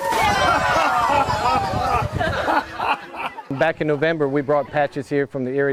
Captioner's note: laughter